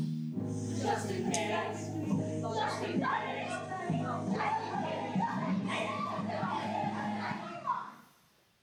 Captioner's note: chaos underneath, shouting and yelling